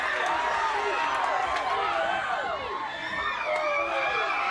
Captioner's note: crowd cheering